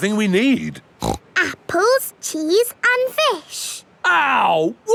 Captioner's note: snorts